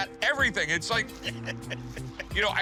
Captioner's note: chuckling